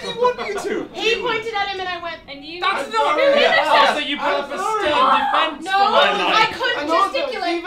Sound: conversation does indeed erupt

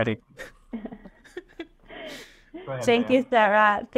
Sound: chuckles

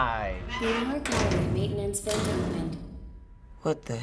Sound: female voice

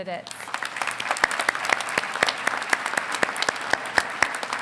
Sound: audience applauding

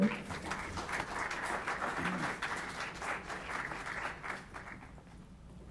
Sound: applauding

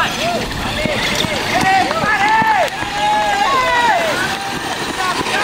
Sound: crowd yelling

